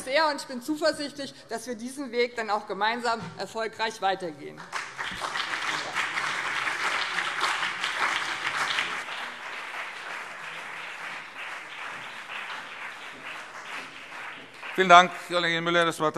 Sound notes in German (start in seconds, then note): 4.6 Beifall BÜNDNIS 90/DIE GRÜNEN und CDU